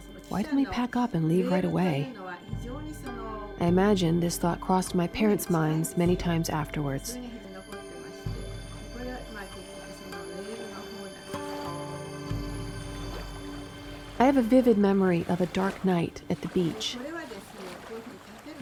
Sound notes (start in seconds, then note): 7.6 speaking in foreign language; 11.9 water splashing; 17.3 water splashing